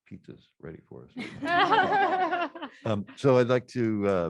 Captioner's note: laughter